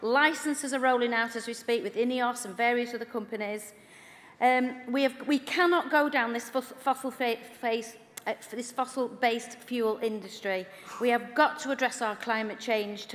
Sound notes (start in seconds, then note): none